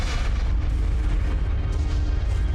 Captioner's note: none